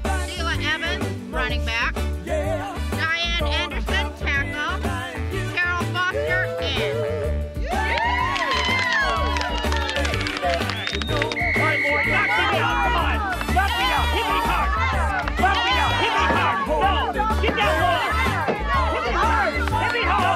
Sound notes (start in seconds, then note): 5.0 woman applauding; 5.0 woman cheering